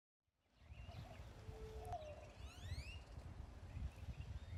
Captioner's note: birds chirping, doves cooing